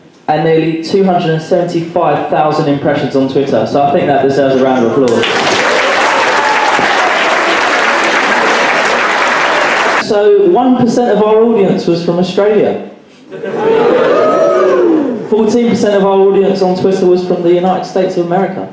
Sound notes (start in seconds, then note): 5.0 applause